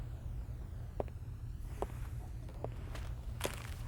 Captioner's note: footsteps